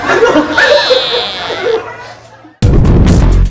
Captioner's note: laughing